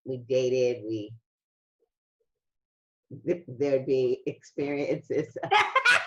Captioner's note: chuckles